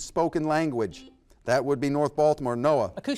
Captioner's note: buzzer beeps